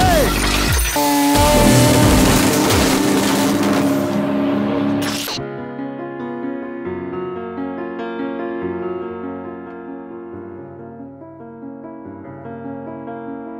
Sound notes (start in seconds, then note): 1.0 car engine roaring; 5.8 classical piano music